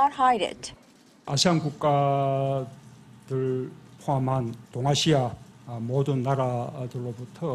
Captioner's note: Korean